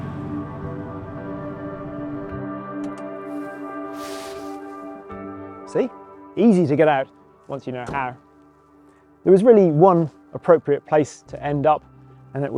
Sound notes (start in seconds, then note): 0.1 slow music; 2.9 metal clicking